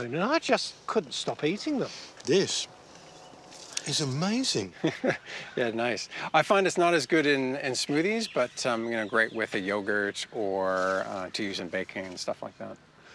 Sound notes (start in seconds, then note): 4.4 chuckles